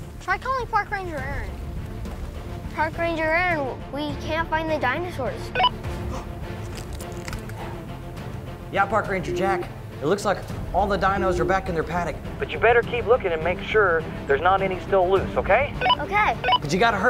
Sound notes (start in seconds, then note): 5.5 walkie talkie beeps